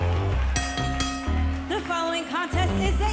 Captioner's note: bell ringing